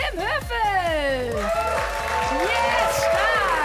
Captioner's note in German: Applaus